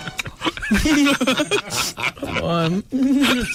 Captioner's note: laughing